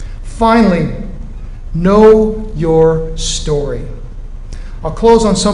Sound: none

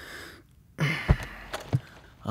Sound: sighs

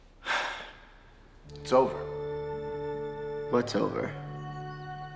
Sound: sighs

